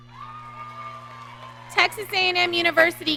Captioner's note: audience cheering